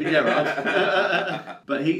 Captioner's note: laughs